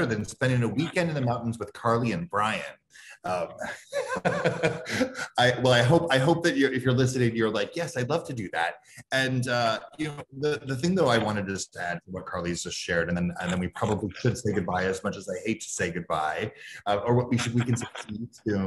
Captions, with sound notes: than spending a weekend in the mountains with Carly and Brian? (laughs) Well, I hope that if you're listening, you're like, yes, I'd love to do that. And the thing that I wanted to just add to what Carly's just shared, and then we probably could say goodbye, as much as I hate to say goodbye,